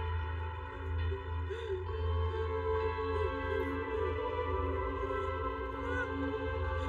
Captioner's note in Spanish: Solloza